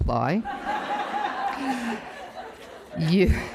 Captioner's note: audience laughs